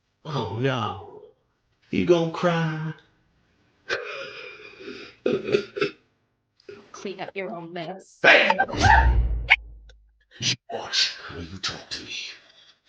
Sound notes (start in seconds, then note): 3.9 laughs; 8.5 Patty screaming